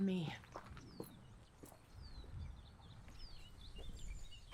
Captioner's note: birds chirping